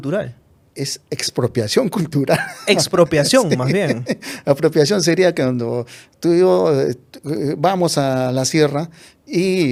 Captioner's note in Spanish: risas